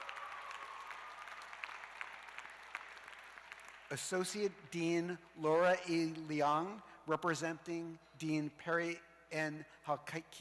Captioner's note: cheers and applause